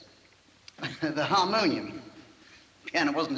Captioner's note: chuckles